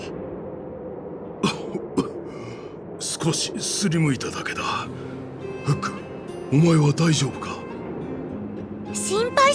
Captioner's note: coughing